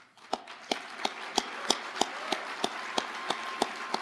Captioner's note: audience applauding